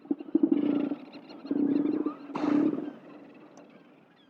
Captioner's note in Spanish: Elefante marino gruñendo